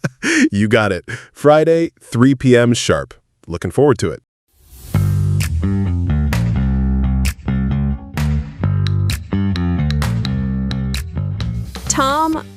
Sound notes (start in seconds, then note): 0.8 laughs